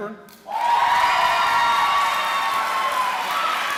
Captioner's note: cheering